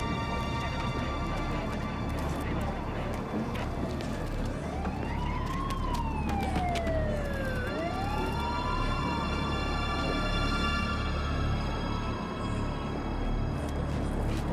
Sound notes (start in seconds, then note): 5.3 sirens blaring; 10.9 somber music